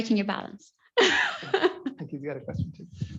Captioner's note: laughs